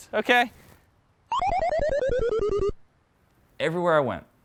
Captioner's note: laughing